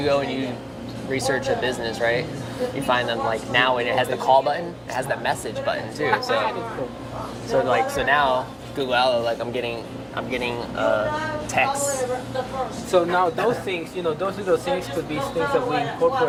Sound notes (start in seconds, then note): 6.0 laughing